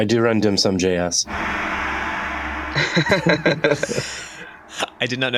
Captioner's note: gong rings